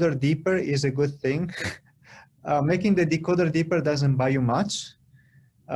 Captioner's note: laughter